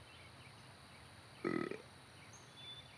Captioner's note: burps